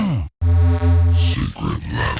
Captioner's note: deep Voice